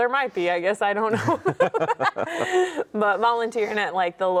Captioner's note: both laugh